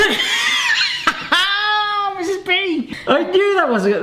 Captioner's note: laughs